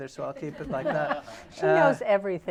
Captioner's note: laughter